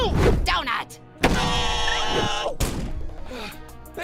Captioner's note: screaming